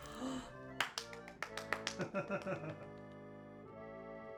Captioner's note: claps